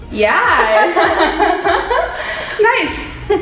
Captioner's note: laughing